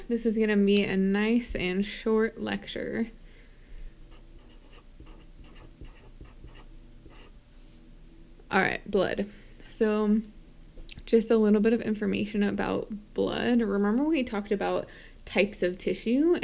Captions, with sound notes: This is gonna be a nice and short lecture. (marker tapping) All right, blood. So just a little bit of information about blood. Remember we talked about types of tissue,